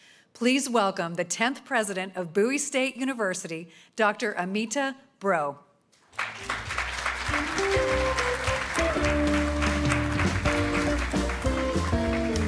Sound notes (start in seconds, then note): 6.0 audience applauding; 6.2 upbeat jazz music